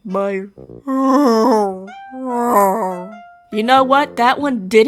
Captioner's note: kind of decent bear sound